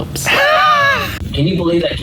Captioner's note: laughing